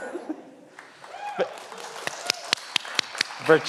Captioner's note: everyone laughs; everyone applauds